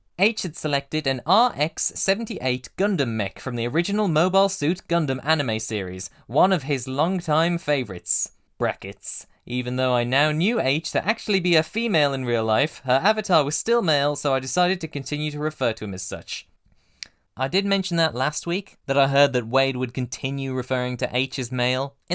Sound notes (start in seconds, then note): 17.0 tongue click